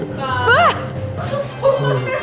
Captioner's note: yells; intense music